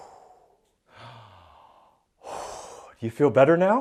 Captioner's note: deep breath